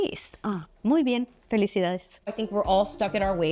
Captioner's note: Marcel Speaks Spanish